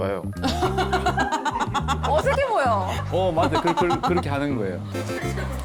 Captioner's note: blower sound